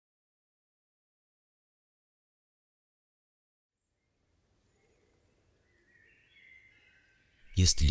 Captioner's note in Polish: śpiew ptaków w oddali, stukanie końskich kopyt